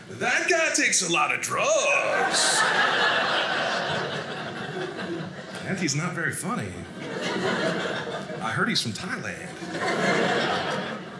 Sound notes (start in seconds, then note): 1.7 audience laughing